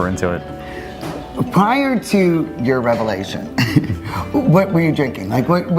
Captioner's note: laughs